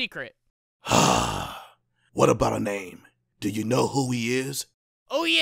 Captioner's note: sigh